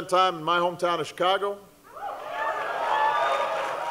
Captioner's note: cheering